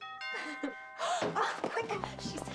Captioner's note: doorbell ringing